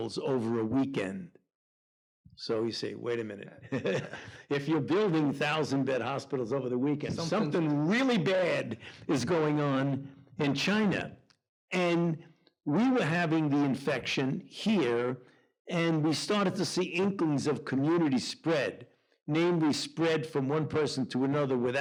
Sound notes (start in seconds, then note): 3.6 chuckles